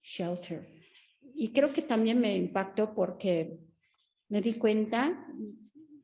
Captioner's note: Sandra speaking Spanish